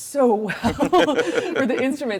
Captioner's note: all laugh